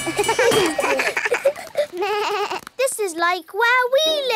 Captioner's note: all laugh